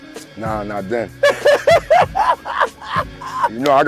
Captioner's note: laughing